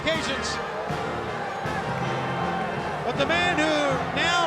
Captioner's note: crowd cheering